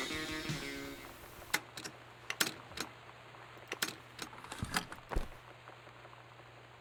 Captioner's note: song Edited Out, Tape Clicks To an End and Ejected